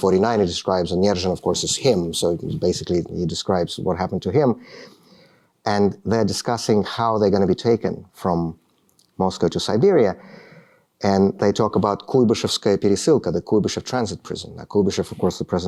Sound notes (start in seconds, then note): 12.1 speaking russian